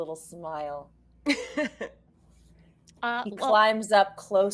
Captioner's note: all laughing